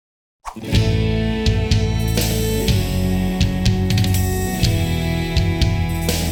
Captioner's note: air swooshing